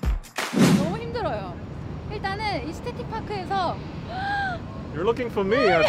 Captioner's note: whooshing; speaking foreign language